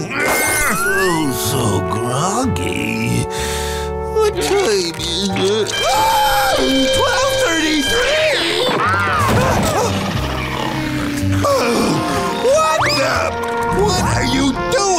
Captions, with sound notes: Oh, so groggy. What time is it? [shrieking] 12:33!? [snoring] Oh! What the- What are you doing?